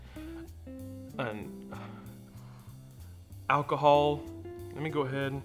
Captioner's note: sniffs